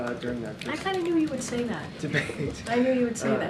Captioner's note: laughs